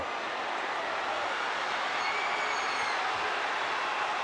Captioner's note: crowd murmuring